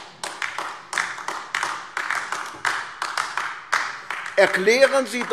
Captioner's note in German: Beifall AfD